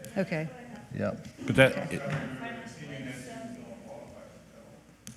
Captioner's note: faintly speaking